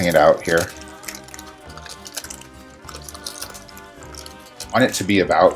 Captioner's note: parchment paper crinkling